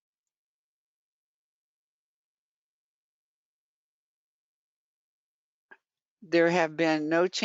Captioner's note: 5 seconds pause